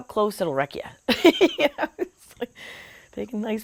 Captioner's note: laughs